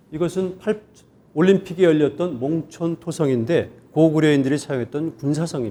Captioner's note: speaking in Korean